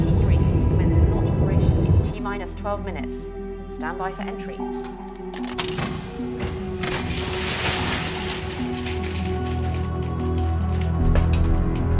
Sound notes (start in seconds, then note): 5.6 hatch thuds; 6.7 water splashing; 11.1 footsteps clacking; 11.1 soft celestial music